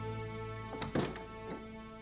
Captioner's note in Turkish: Kapı kapanma sesi